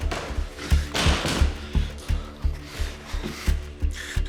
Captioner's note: door thuds